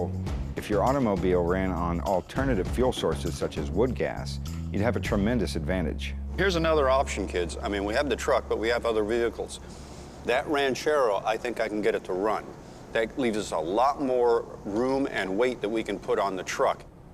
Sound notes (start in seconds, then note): none